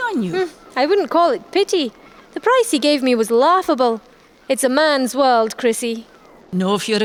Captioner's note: sighs